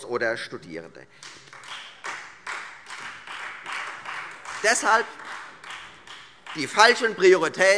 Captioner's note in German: Beifall Freie Demokraten